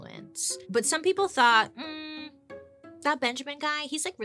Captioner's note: humming in thought